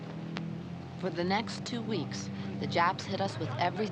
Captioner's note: tense music; Maggie Voiceover